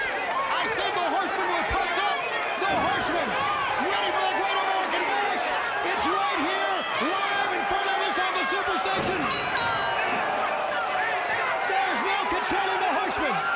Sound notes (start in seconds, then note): 9.0 bell dinging